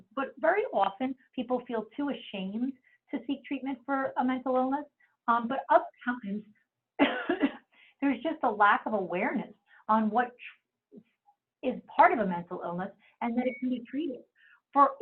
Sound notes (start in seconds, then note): 7.0 coughs